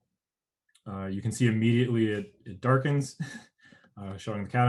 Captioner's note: chuckles